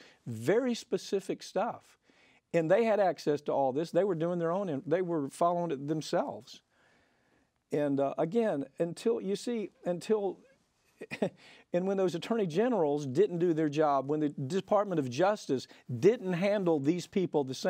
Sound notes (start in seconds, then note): 10.7 laughs